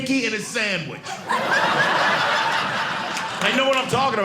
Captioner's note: audience laughing